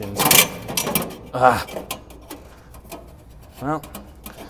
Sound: grill rattling

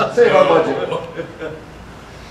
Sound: audience murmur; audience laughter

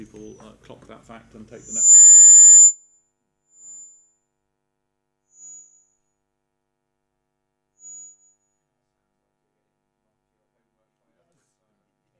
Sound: break in audio

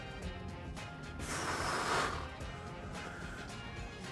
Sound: exhale

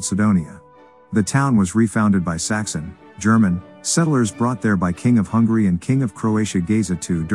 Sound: German

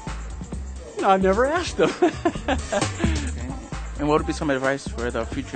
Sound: laughs

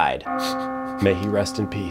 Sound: bell chimes

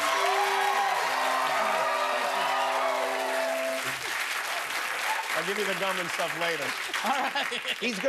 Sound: cheers and applause; laughter

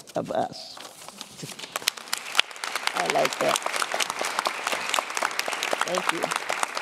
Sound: applause

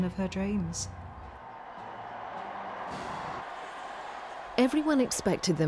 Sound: crowd cheering

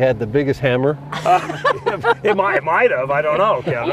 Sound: laughter

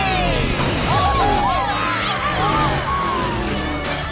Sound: cheering

